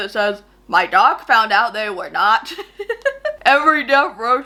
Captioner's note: laughs